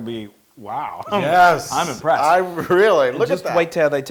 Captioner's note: laugh